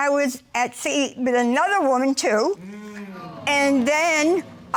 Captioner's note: audience sighing